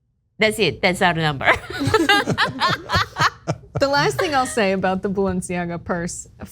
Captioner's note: laugh